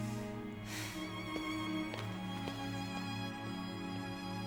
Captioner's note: gentle music; Gel sighs; gentle music